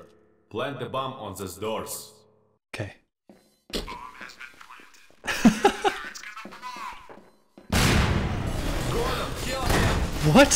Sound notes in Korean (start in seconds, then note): 5.2 웃음; 7.7 폭발